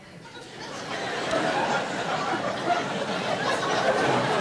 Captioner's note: audience laughter